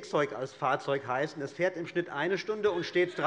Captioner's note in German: Heiterkeit bei der Abg